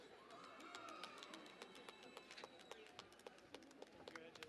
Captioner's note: cheering and Applause